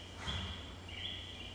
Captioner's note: none